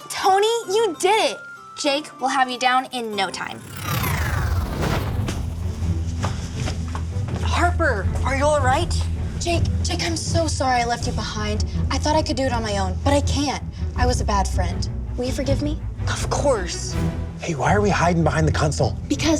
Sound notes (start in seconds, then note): 3.1 warp noise